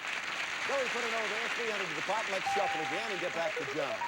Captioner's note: audience applauding